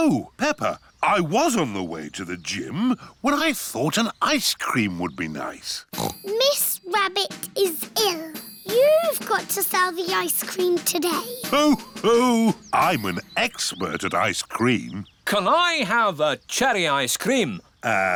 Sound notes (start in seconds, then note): 5.9 snorts; 10.5 laughs